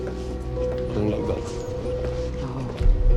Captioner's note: speaking french